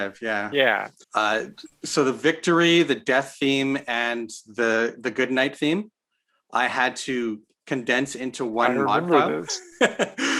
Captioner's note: laughs